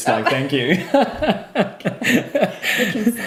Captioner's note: laughing